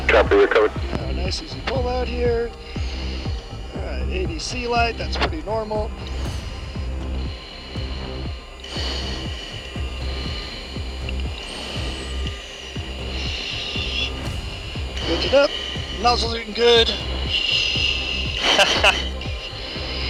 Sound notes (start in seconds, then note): 7.0 breathes deeply; 7.0 tense dramatic music